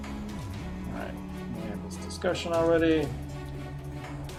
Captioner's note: humming along; humming along